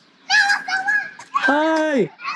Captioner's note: child shouts